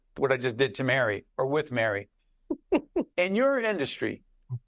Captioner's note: chuckling